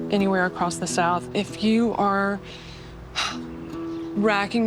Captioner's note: exhales